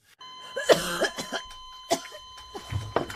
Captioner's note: coughing